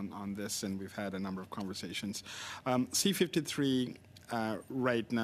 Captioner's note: speaking French